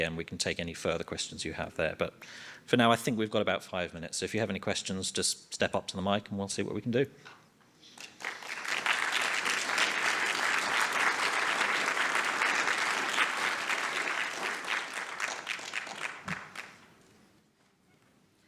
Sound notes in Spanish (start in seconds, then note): 8.0 aplausos